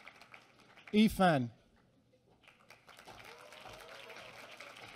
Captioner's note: applause